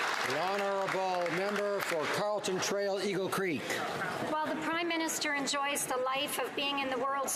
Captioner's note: applause